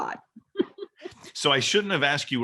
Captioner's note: laughs